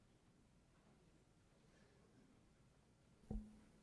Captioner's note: silence